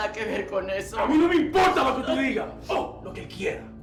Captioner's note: Spanish; Dark Shadow in Spanish; Spanish